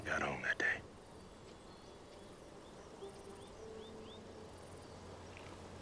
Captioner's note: birds chirping